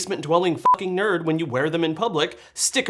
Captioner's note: beep